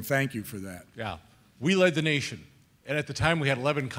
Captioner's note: voiceover